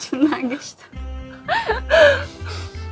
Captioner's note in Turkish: gülüşmeler